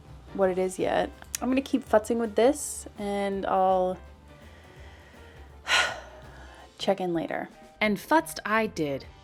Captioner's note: sigh